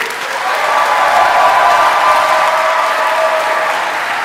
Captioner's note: audience applauding; audience cheering